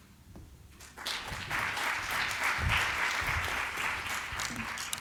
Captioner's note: applause